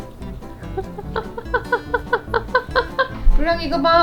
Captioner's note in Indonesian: tertawa